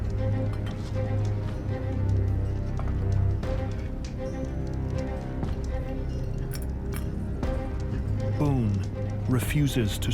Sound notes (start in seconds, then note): 1.6 dramatic music; 4.8 fire crackling